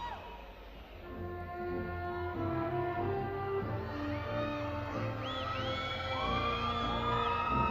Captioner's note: crowd cheering